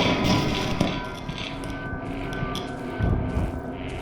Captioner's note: crackling stops